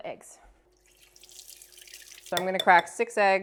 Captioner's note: water running